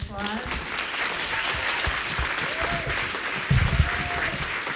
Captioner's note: audience applauding